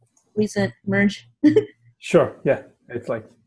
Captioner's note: laugh